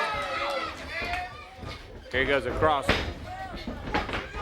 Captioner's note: crowd chatter